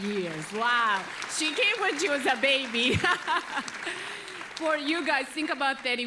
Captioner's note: chuckles